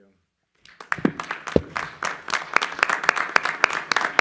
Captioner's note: applause